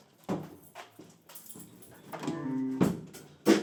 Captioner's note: keys clacking; drums